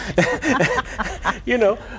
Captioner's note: chuckles